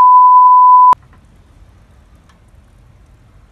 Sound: raining continues

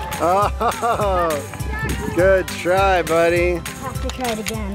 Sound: chuckles

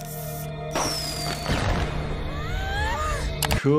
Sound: fireworks explode

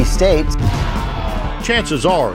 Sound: protesters yelling

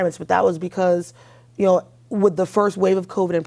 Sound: none

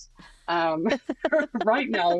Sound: both laughing

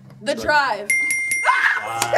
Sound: bell chiming; screaming

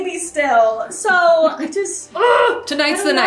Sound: groans

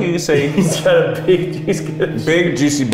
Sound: laughing

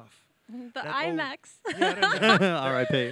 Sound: laughs

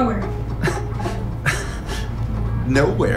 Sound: chuckle

